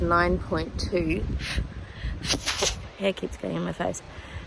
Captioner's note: makes mouth noises trying to remove hair